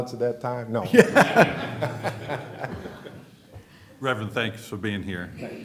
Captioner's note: laughter